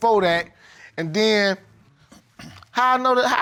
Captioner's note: clears throat